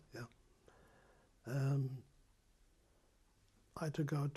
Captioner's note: pauses for 3 seconds